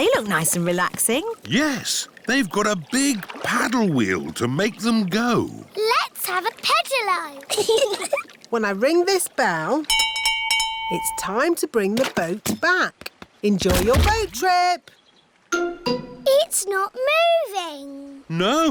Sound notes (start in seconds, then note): 7.4 giggling; 9.9 bell rings